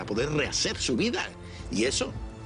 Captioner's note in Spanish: none